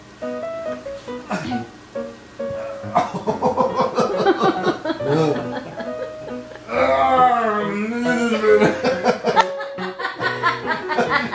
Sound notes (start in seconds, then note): 0.3 playful piano music; 5.2 laughs